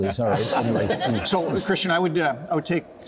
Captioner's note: panellists chuckling